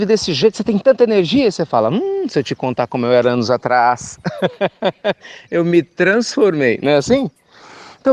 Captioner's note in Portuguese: Risos